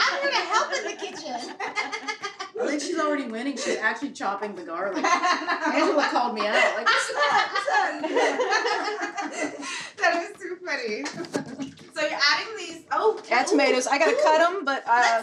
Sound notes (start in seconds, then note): 1.7 laughing; 8.1 everyone laughing